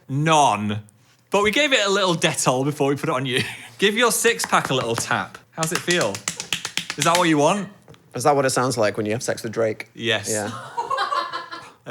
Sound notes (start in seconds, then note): 5.6 slapping skin suit